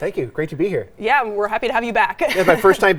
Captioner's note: laughs